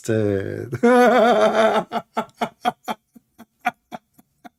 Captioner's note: laughing